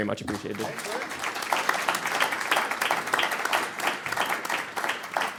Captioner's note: audience applauding